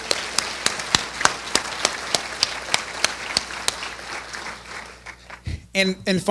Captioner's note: applause